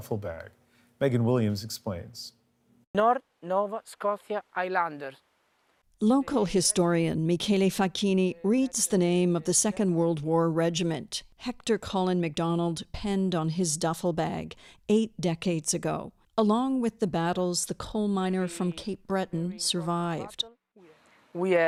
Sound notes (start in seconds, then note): 5.8 speaking French